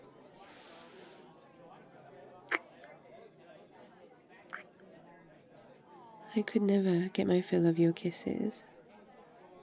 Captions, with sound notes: *kiss* *kiss* I could never get my fill of your kisses